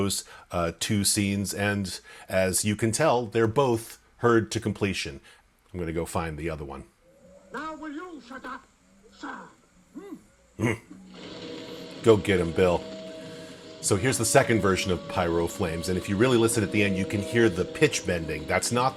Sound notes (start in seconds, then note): 10.6 grunts in approval